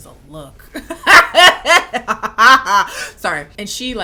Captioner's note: laughing